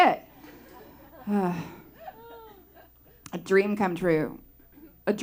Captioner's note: sigh